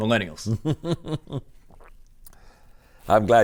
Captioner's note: laughs